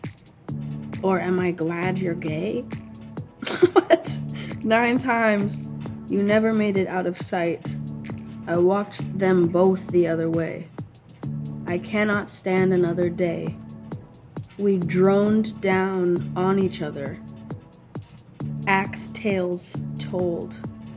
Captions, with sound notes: Or am I glad you're gay? [laughs] What? Nine times, you never made it out of sight. I walked them both the other way. I cannot stand another day. We droned down on each other, ax-tails tolled.